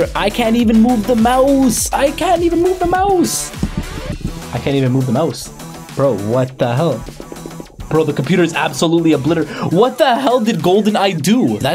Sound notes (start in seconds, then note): 1.9 trackpad thumping; 7.2 trackpad clicking